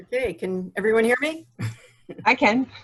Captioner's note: chuckles